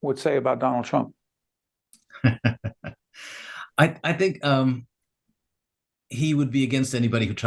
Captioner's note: laughing